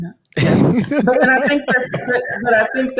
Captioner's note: Marco laughs